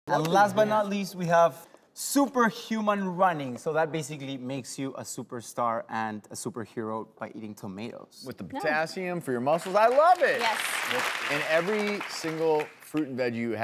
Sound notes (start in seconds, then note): 9.6 clapping